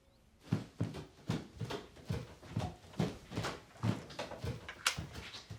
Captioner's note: footsteps thudding